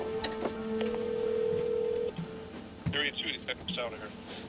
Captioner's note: phone ringing